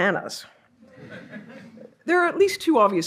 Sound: audience laughs

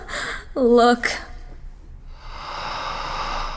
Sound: breathy sound again

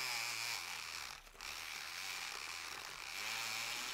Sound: blender Noise

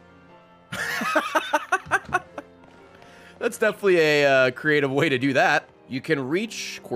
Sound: laughs

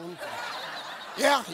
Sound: audience laughing; beep

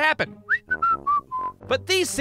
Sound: whistling

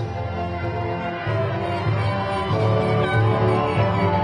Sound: audience cheering

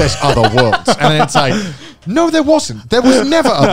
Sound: laughing

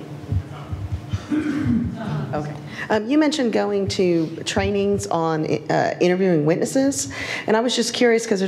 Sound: cough

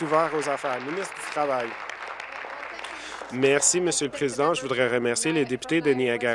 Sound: applause

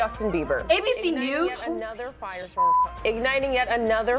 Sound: whispers

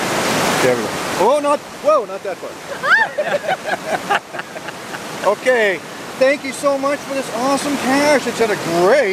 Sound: laughing

